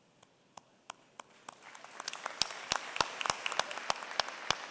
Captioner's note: applause